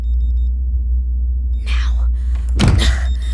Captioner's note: as quietly as possible